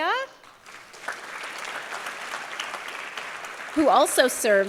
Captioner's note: applause